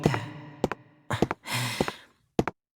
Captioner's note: sigh